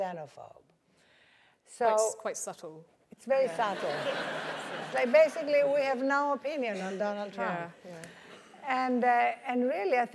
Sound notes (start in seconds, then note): 3.4 laughter